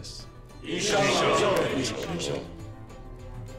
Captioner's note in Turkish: Hepsi bir ağızdan